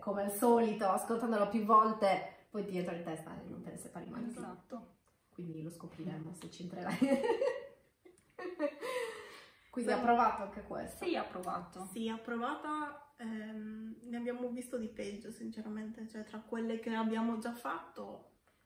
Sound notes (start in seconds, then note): 8.4 everybody lols